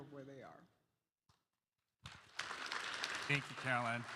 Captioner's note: applause